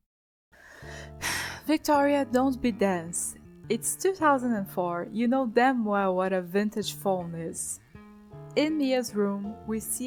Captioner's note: sigh